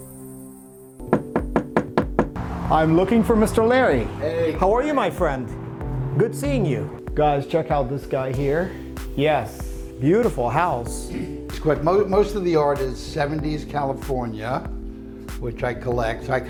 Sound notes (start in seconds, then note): 1.1 knocking